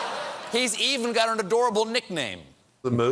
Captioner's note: laughter